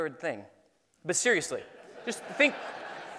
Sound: laughing

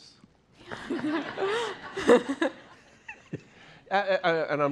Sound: laughter

